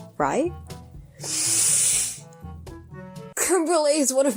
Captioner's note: deep inhale